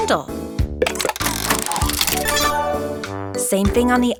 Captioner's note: mechanical whirring